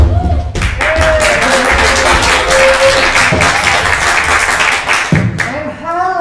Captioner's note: crowd applauding